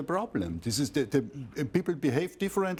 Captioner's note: german